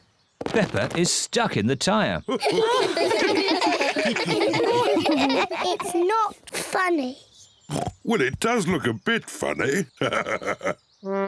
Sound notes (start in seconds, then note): 2.3 all chuckle; 7.7 oinks